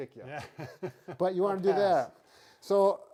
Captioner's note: laughter